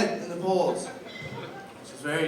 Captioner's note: laughter